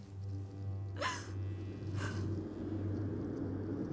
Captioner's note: crying